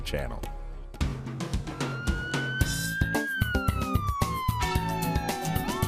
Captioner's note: a siren wails